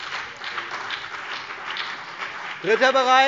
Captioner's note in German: Beifall CDU und BÜNDNIS 90/DIE GRÜNEN